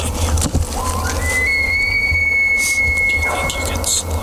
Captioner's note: elk bugling